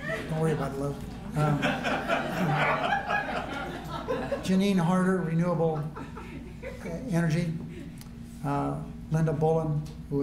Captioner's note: laughter